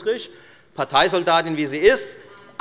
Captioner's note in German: none